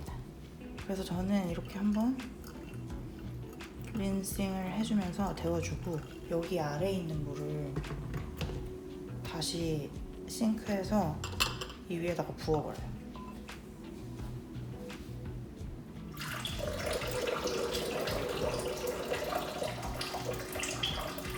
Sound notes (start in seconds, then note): 16.1 dumping water